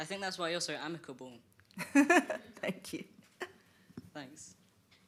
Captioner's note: she laughs